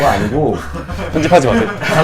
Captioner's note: laughing